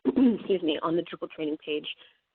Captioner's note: clears throat